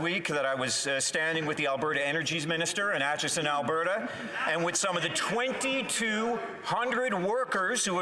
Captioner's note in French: voix de l'interprète